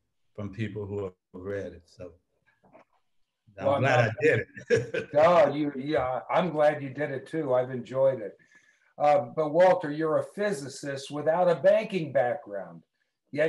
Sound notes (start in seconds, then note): 3.7 laughs